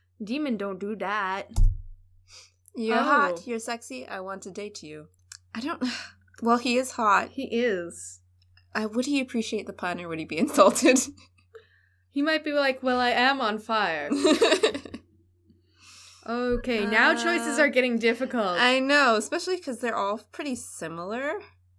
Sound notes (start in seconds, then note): 14.1 laughter